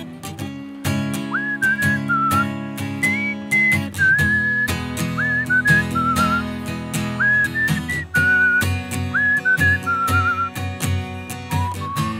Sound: more whistling

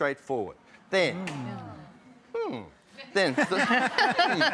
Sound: laughter

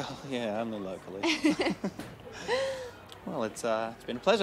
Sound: both chuckling

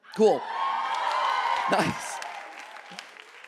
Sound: audience cheering

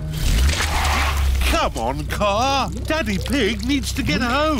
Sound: wheels screech

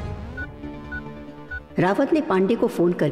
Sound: beeps on mobile

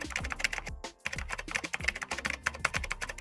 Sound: typing

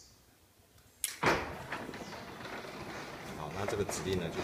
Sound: door closing

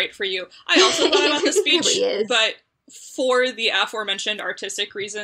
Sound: laughs

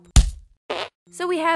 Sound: smack; fart

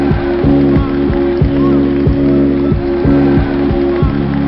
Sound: bright music; crowd cheering

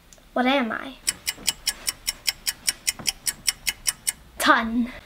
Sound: clock ticking

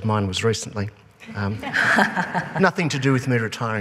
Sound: laughing

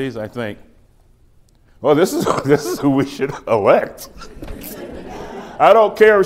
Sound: laughs; laughter

